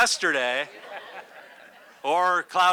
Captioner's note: audience laughs